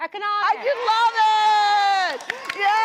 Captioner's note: audience cheering